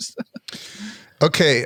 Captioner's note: laughs